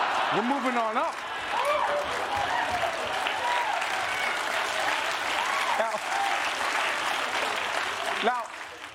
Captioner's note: cheering